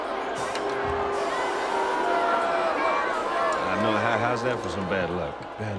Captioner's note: crowd jeering